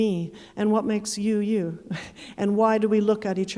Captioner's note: chuckling